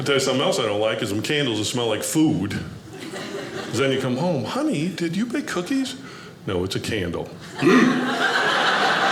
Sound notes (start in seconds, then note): 7.5 audience laughing; 7.6 grunts